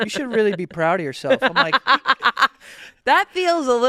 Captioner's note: laughing